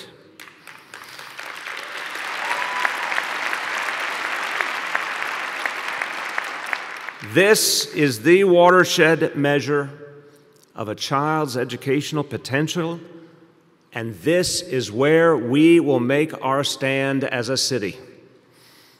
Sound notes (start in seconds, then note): 7.2 applause